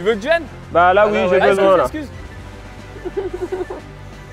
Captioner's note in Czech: mluví francouzsky